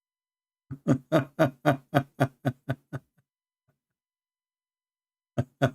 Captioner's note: Ketawa